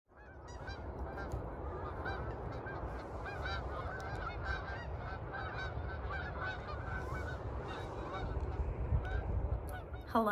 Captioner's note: geese honking